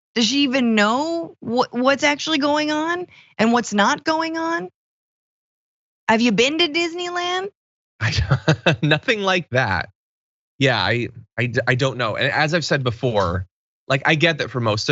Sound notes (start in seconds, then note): 8.0 laugh